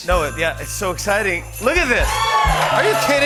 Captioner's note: cheers and applause